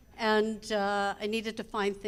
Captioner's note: none